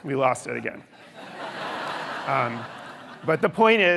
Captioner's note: audience laughing